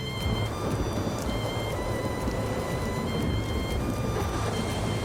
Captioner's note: wind raging